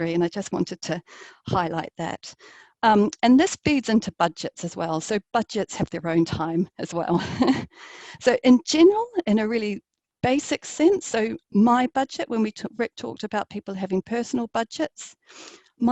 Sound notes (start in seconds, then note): 7.1 laughs